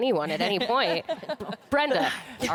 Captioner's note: laughter